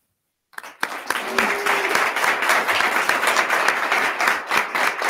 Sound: attendees clapping

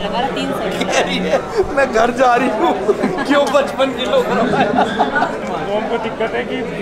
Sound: everyone laughs

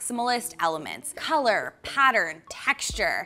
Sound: text popping

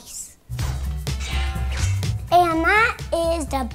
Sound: sword swings

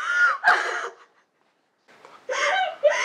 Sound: sobbing

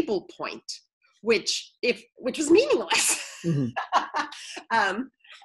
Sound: laughs

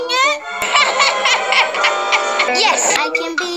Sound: laughing

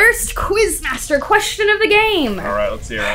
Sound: logo swooshing

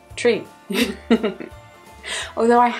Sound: laughs

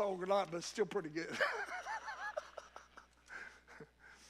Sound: laughs

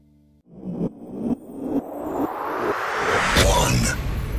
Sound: air whooshes

